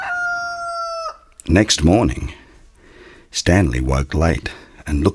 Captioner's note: A rooster crows